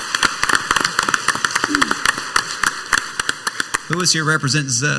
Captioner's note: council members and audience applauding